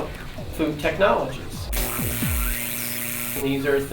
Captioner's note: buzzing from lab instruments